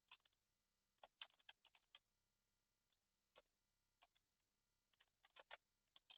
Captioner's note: computer keyboard keys tapping